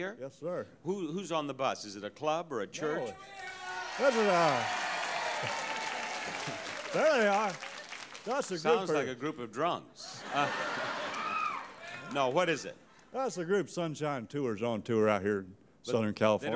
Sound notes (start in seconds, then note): 3.2 audience cheers; 10.1 audience laughing